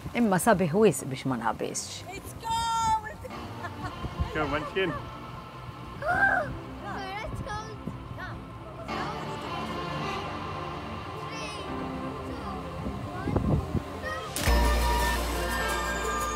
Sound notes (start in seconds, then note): 3.1 laughs; 6.0 son shrieks; 14.0 upbeat uplifting music